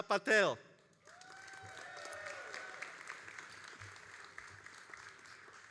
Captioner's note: all applauding and cheering